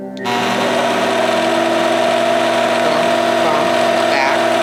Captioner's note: machine whirring